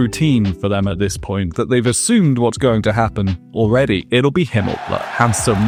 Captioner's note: crowd cheers